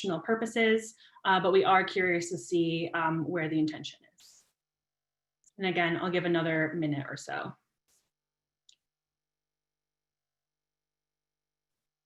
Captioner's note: silence